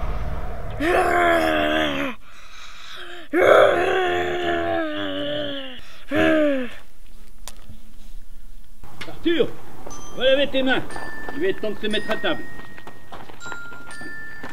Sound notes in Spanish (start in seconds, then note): 0.7 Gruñido